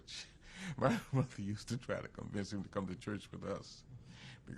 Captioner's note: laughs